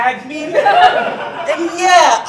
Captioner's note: audience Laughing